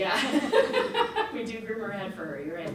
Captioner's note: audience laughs